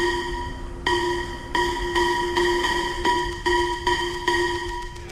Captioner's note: bell ringing